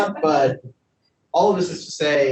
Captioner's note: panelists laughing